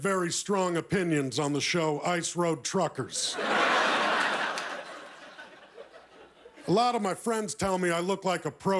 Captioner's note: laughter